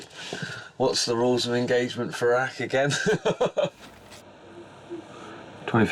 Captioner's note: chuckles